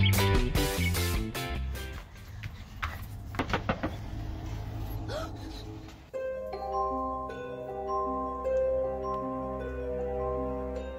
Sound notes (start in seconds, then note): 0.0 fun upbeat music; 3.3 knocking; 5.9 suspenseful music